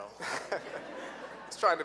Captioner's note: laughing